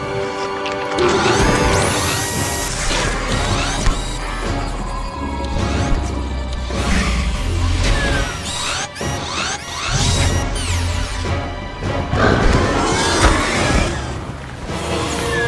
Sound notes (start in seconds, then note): 0.8 raptor biting; 2.2 robot whirs; 2.4 raptor growls; 3.5 mechanical whirring; 7.8 laser powers down; 8.9 robot whirs; 11.8 raptor growls; 13.2 Raptor and Robot scuffle